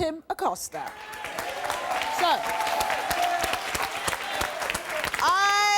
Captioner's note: audience applauding and cheering